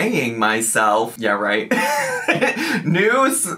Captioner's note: laughing